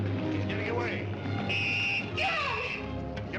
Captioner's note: blows whistle